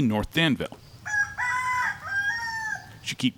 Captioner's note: rooster sings